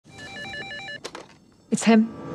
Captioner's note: phone rings